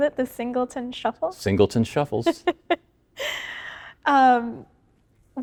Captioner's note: interviewer laughing